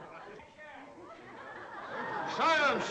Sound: noisy chattering

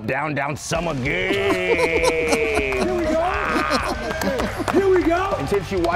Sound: applause

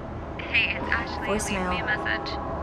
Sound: voicemail

